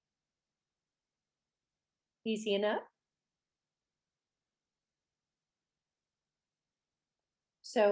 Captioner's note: none